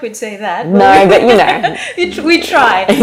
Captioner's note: both laughing